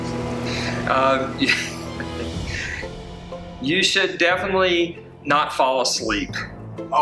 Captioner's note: laughs